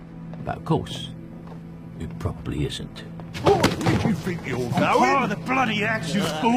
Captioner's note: male Voice